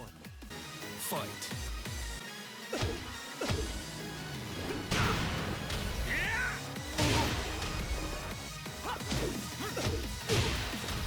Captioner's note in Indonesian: Suara dari game